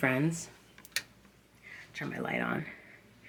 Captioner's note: switch clicking